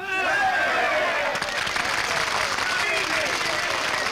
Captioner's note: people cheer